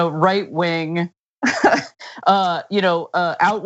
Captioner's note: laugh